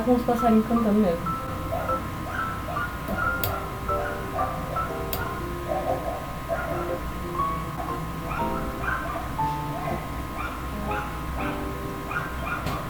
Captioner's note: dogs barking